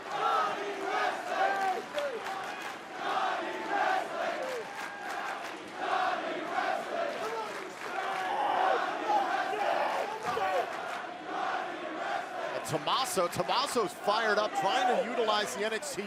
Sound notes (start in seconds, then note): 1.0 fans chanting